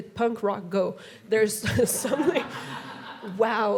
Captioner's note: audience laughing